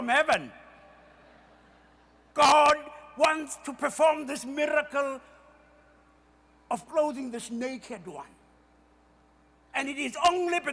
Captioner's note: more laughter